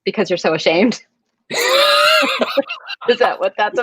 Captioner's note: Santino laughing